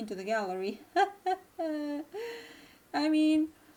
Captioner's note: weird laugh